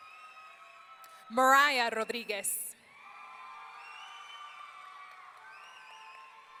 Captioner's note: audience cheering